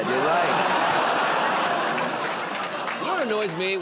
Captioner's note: laughter, groaning